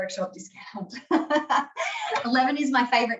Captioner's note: laughing